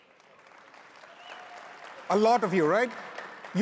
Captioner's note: audience cheers